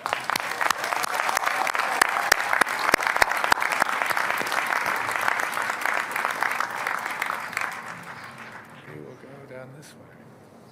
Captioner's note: applause